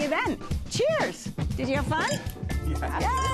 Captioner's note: glasses clinking